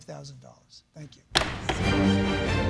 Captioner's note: gavel bangs